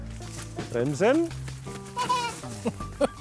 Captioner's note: laughs